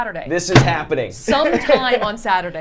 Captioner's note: laughs